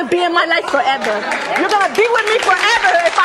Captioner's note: audience applauding